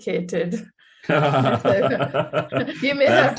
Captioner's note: laughing